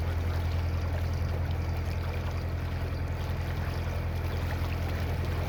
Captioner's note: purring engine sound